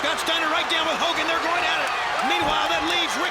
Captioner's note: crowd cheering